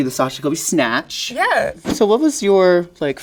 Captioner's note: air whooshing